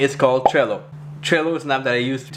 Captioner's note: bubble popping